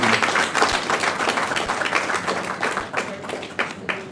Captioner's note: applause